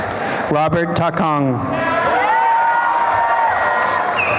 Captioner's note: applause and cheering